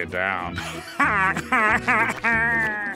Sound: laughing

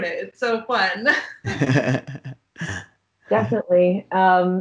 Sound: laughing

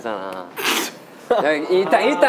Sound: fake laughter

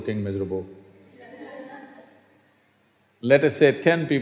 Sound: laughter

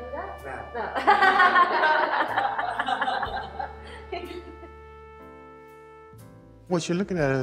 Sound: laughter

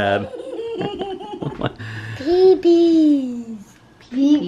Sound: laughs

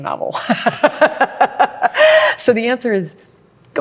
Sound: laughs

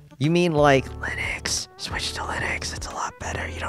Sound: whispering

